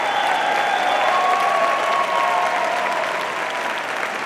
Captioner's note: audience cheering